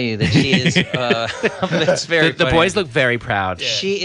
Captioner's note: laughs